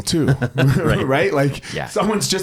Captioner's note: laughs